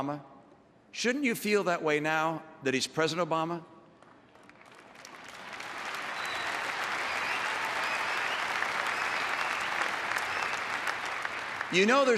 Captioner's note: applause